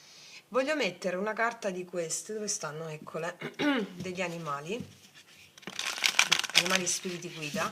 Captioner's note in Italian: schiarire la voce